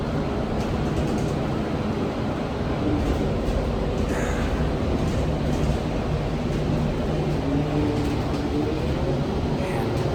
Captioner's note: catches her breath